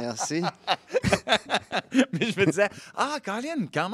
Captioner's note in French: rires